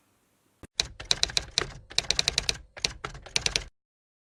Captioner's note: typewriting Typing